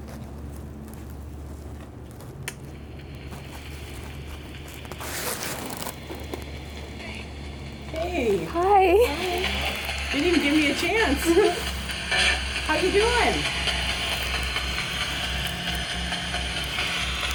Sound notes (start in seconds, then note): 2.2 static crackling; 2.2 switch clicks; 14.0 static crackling